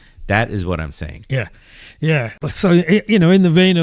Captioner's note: uh